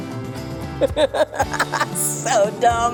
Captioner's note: laughing